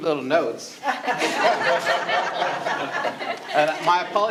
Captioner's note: all laughing